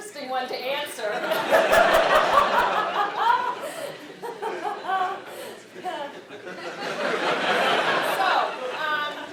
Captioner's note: laugh